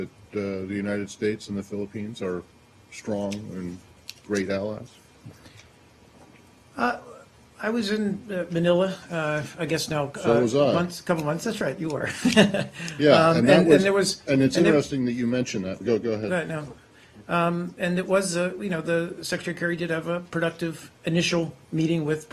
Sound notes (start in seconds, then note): 12.0 laughter